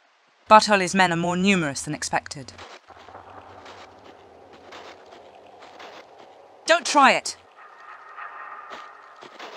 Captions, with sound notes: Bartoli's men are more numerous than expected. *foosteps get closer* Don't try it.